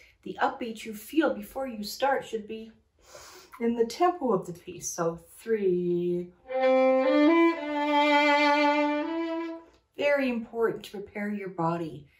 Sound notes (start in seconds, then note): 2.9 breathes; 6.4 playing violin